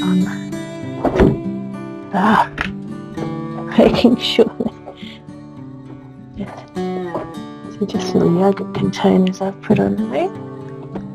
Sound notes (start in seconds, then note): 3.6 laughs